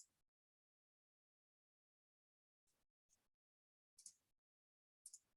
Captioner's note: mouse clicking continues